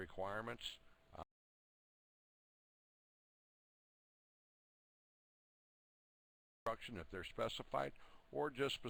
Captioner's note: audio drops